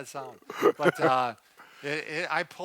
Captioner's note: laughs